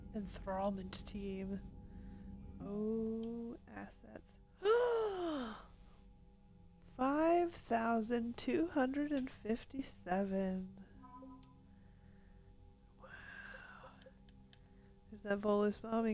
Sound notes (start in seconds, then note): 5.7 gasp